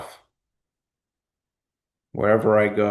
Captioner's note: pause